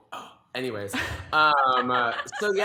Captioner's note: laughs